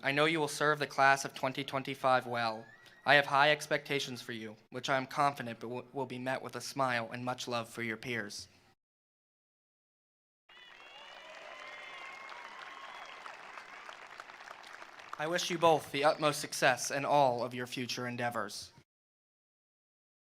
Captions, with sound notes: I know you'll serve the Class of 2025 well. I have high expectations for you, which I'm confident but will be met with a smile and much love for your peers. (attendees applauding) (attendees cheering) I wish you both the utmost success in all of your future endeavors.